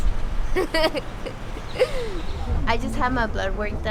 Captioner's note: laughs